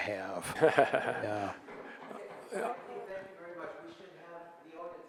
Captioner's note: laughing